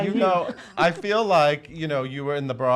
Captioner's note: laughs